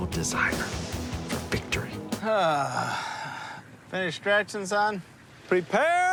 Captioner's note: sighs